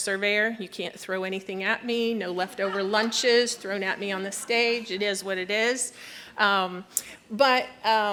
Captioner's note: laughter